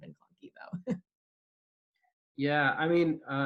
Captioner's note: laughing